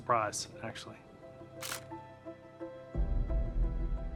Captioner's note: shutter clicks